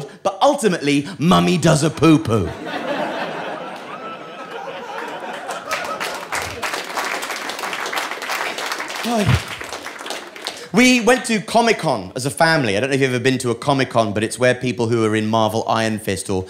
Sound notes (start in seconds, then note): 3.2 audience laughing; 4.8 applause